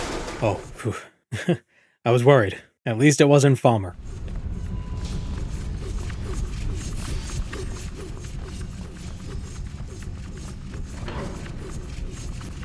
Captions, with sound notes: Oh, phew. *sheepish chuckle* I was worried. At least it wasn't falmer.